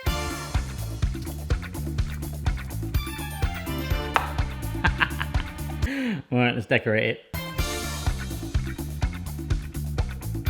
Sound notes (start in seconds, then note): 0.0 upbeat music; 4.7 laughs; 7.3 upbeat music